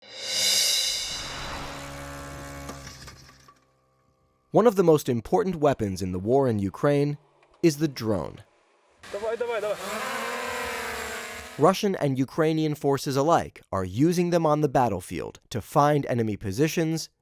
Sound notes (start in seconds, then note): 0.4 drone humming; 8.9 soldier speaking a foreign language